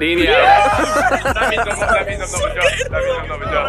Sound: all cheering

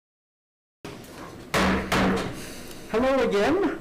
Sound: gavel bangs twice

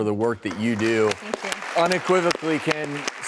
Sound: audience claps

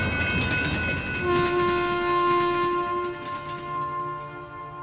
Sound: sound of train horn echoing in the distance

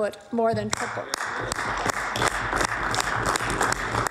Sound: applause

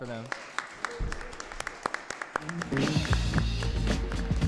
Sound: applause

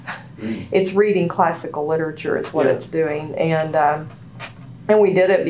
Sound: laughter

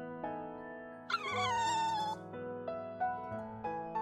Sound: whines

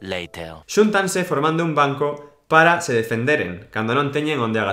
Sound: reading in Galician

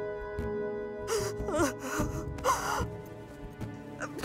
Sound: crying

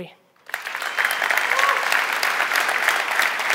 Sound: applause

